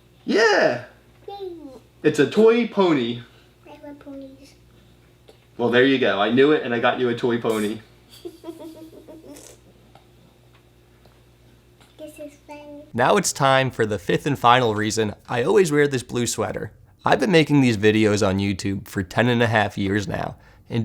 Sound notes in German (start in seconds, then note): 8.1 Kind lacht